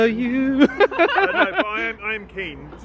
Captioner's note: all laughing